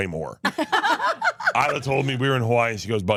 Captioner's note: laugh